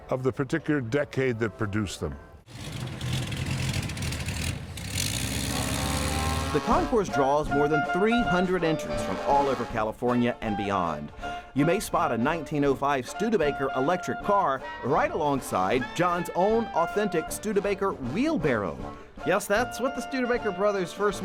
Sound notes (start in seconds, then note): 2.4 car Engine